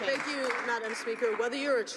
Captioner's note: some Applause